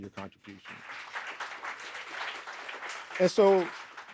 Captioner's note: audience applauding